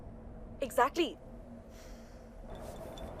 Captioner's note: sighs